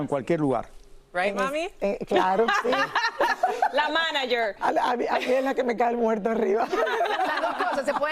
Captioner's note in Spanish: risas